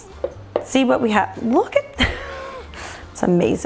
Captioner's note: laughs